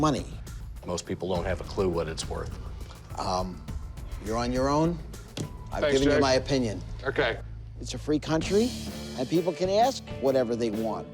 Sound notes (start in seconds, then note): none